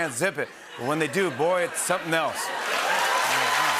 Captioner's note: laughter, cheers, applause